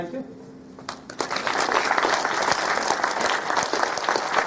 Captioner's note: applause